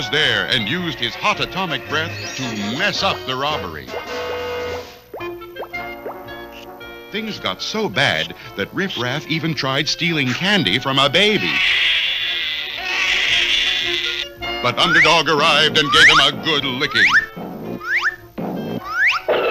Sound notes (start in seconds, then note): 11.2 baby Cries; 19.3 crash!